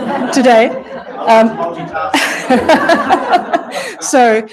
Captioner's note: audience laughs